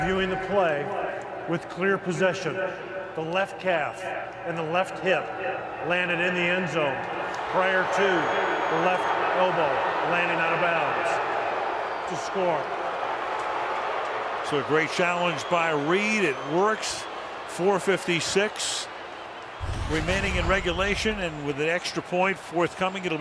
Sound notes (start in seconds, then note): 13.5 booing